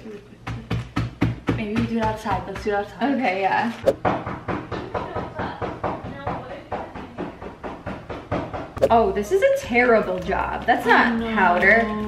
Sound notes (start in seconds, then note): 0.4 soft hammering; 3.8 loud hammering